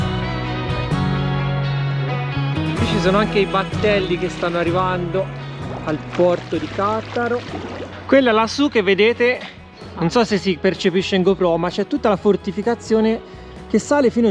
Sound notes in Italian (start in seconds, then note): 5.7 Applauso